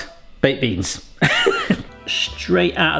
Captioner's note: laughing